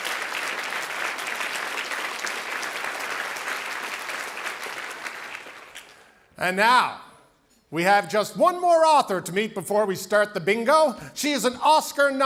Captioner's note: cheering and Applause